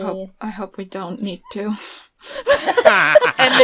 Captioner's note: laughter